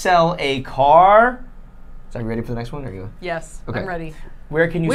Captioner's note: none